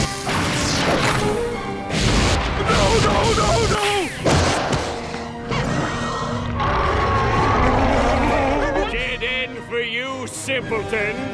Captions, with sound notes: No, no, no, no! [roaring] [whimpering] Dead end for you, simpletons!